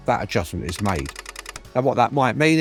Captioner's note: typewriter clacking